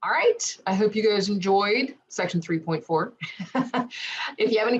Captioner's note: giggle